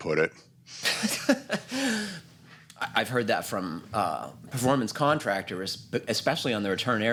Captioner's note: laughs